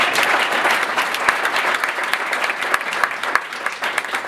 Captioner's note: applause